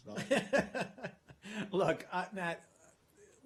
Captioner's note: laughter